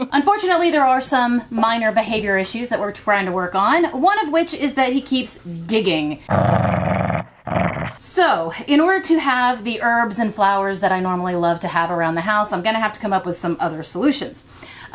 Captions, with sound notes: Unfortunately, there are some minor behavior issues that we're trying to work on, one of which is that he keeps digging. (dog growling) So, in order to have the herbs and flowers that I normally love to have around the house, I'm going to have to come up with some other solutions.